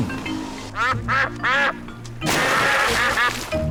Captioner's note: ducks quack